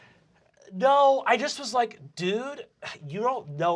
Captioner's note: nasally